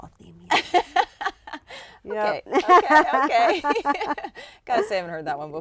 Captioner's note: laughter